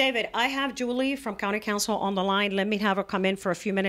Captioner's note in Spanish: Hablando ingl\s